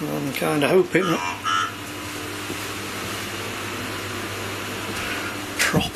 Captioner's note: electronic voice